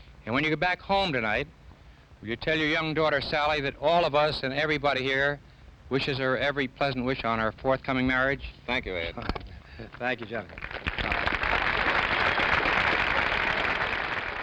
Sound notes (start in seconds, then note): 9.6 Ed laughing; 9.8 audience applauding